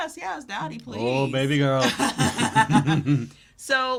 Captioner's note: both laughing